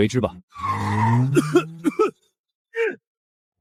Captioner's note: cough